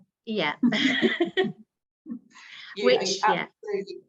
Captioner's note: laughing